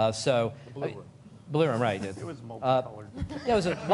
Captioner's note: laughter